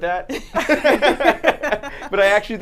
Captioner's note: laugh